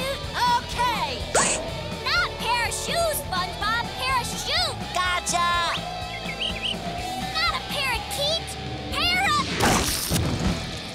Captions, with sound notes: Okay! Not pair of shoes, SpongeBob, parachute! Gotcha! [chirping] Not a parakeet, para...